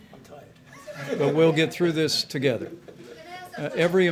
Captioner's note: laughter